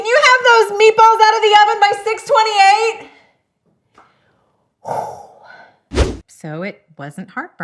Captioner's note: sighs; air whooshing